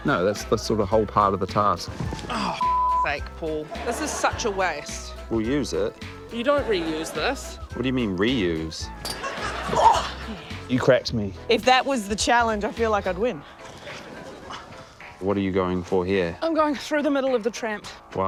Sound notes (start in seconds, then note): 9.7 grunts